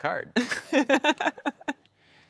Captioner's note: lauhging